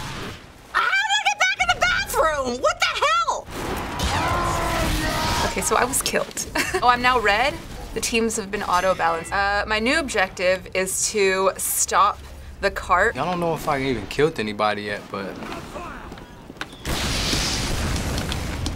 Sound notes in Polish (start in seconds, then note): 3.9 Głośne krzyki